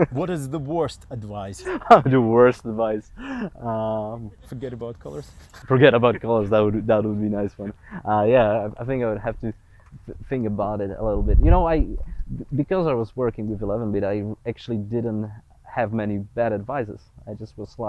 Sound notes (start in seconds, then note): 0.0 laughs; 7.4 laughs